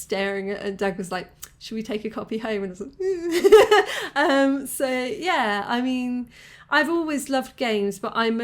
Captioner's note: laughing